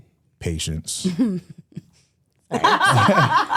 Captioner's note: laughs